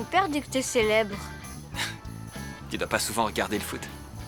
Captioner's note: chuckles